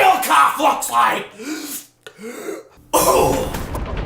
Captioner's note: inhale